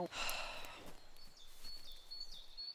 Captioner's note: Jim sighing; birds chirping